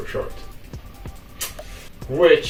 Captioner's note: smacks lips intensively while regretting life choices